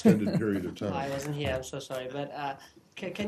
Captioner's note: laughter